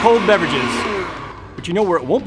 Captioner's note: blender switches off